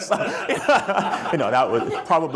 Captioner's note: chuckling